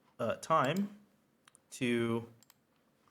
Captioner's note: mouse clicks